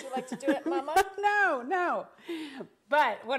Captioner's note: laughing